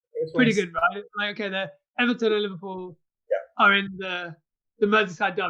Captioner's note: murmurs